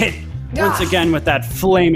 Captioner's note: groans